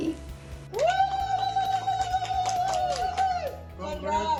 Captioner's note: family cheering